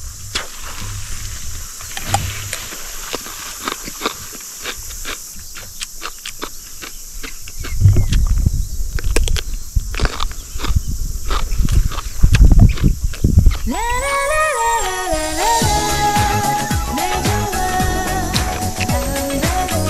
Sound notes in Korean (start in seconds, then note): 1.9 오이 씹는 소리; 8.8 아삭 아삭